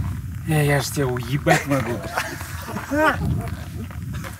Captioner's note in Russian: смеются